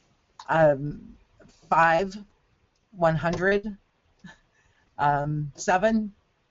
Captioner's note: voiceover